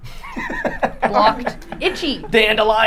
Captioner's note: laughing